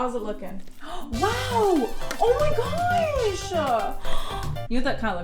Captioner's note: gasp